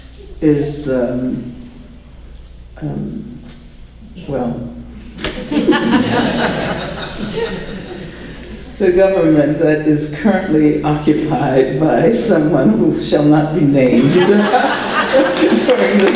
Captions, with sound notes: is well, [audience laughter] the government that is currently occupied by someone who shall not be named for this gathering. [audience laughter and applause]